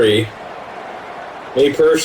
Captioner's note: crowd Noises